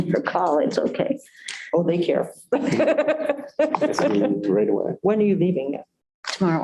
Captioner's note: laughter